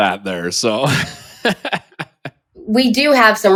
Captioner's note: laughs